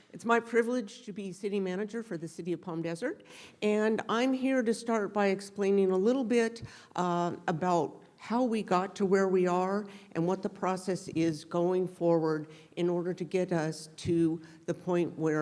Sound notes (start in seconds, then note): none